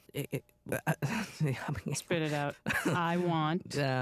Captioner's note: stammering